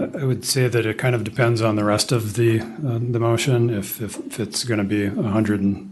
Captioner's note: clears throat